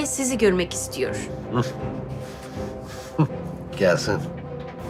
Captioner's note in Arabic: يضحك